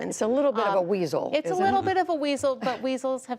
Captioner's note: laughter